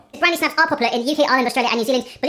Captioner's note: talking speeds up